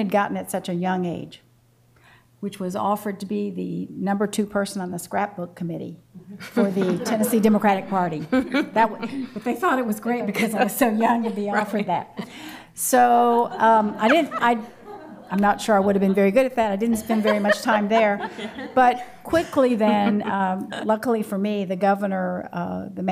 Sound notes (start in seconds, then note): 7.9 laughter; 13.3 laughs; 13.4 laughter